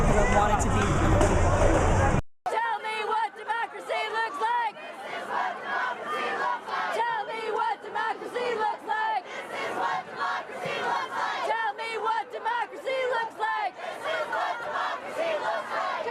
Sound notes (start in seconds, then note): 3.1 chants; 4.8 unison chant